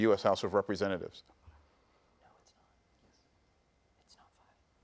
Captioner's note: students whispering